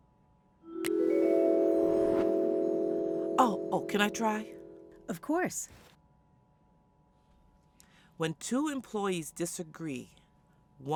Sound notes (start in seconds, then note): 0.6 click; 0.6 ascending vibraphone; 1.7 woosh; 2.2 ascending vibraphone